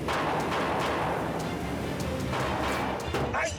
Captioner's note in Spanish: se oyen disparos